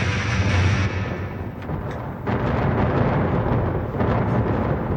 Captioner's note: thunder rumbling